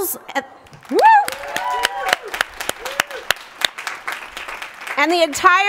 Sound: applause

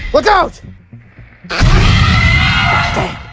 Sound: raptor Sounds

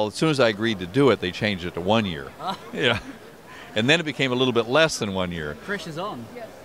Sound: laughs

